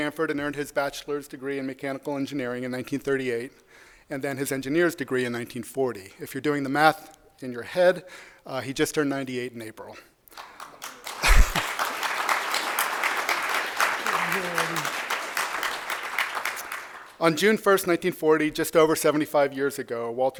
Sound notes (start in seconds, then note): 10.3 applause